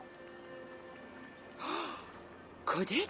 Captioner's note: gasp